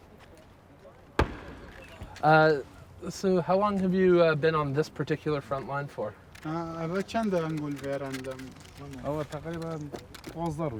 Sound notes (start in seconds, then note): 5.6 speaking foreign language